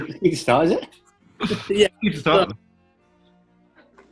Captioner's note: laughs